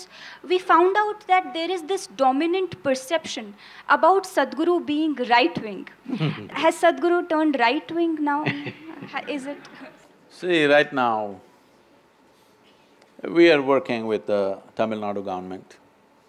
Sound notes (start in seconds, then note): 6.1 Sadhguru laughs; 8.4 Sadhguru laughs; 8.4 few laugh